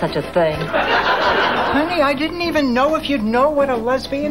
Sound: audience laughing

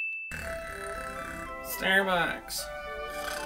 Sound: snoring

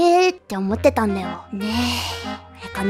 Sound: sighs

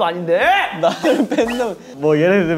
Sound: huffing and puffing

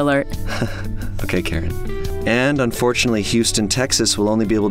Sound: chuckles

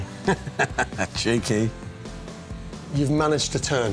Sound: laughter

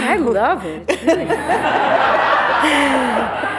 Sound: laughter

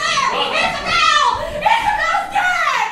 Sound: screams

